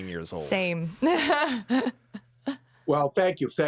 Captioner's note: laughs